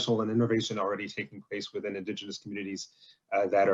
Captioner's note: stammering